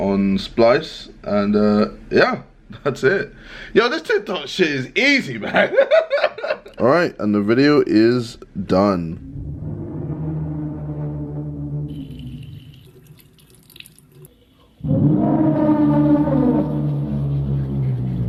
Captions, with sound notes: on splice and yeah, that's it. Yo this TikTok shit is easy man.(laughing) All right and the video is done. (water trickling) (dramatic music)